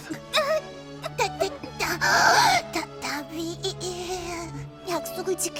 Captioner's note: gasp